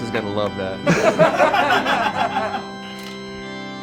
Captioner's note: laughing; melancholic organ music